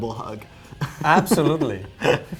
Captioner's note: laughs